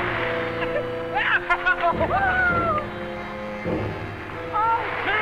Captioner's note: Pete laughing; cheering